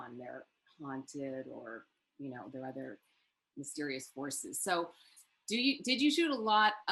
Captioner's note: none